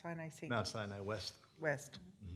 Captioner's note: murmurs